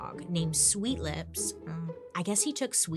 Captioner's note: humming